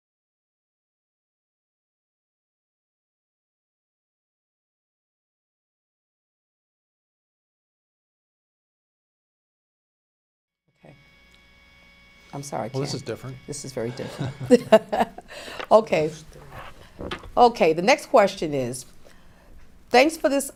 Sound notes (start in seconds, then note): 13.8 laughs